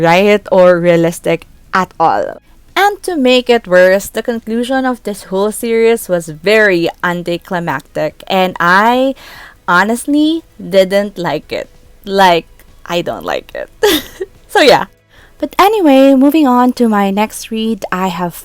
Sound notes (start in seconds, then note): 13.8 chuckles